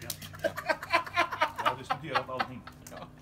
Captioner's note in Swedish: skratt